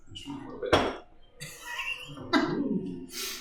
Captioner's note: laughs